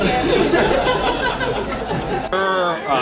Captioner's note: crowd laughing